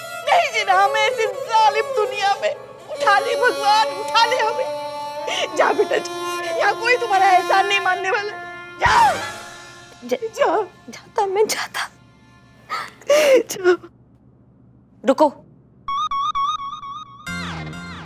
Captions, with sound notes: I don't want to live in such a world! Let me go, Lord! Go, dear, no one is going to listen to you here. Go! Go. I'll go. [sobbing] Wait.